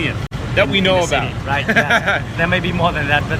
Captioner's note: laughs